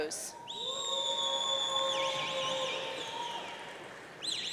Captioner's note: audience cheering